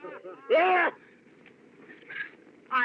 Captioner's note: laughing Continues